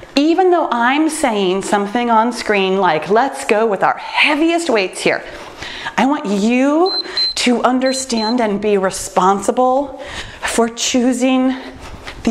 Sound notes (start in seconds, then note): 6.8 timer beeps